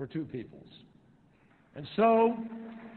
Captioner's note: applause